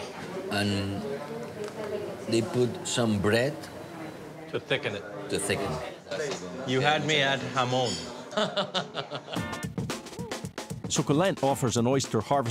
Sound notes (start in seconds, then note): 8.3 laughs